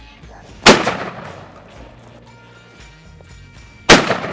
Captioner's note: guns firing